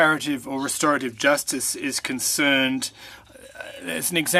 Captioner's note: speaking French